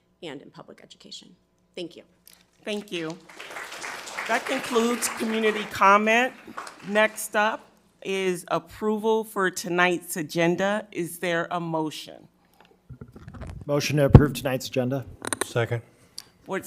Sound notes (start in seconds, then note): 2.7 crowd clapping